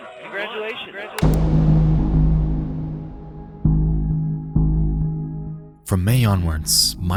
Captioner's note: mouse clicks; mysterious music